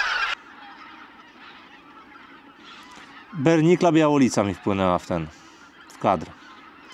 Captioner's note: Geese